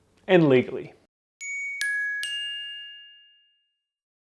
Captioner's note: bell ringing